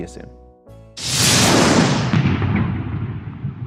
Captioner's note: dramatic noise